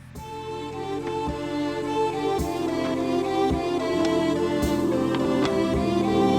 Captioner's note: vehicle rumbling; lively, pleasant music